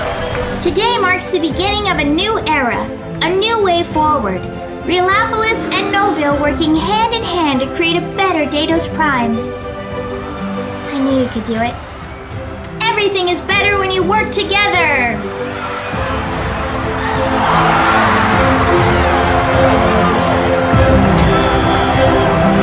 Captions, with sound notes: Today marks the beginning of a new era. A new way forward. Realopolis and Noville working hand-in-hand to create a better Datos Prime! I knew you could do it. Everything is better when you work together! *crowd cheering*